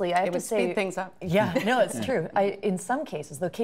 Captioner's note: laughter